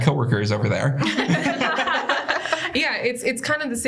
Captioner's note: laughter